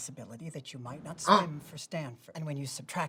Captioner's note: Katya gasps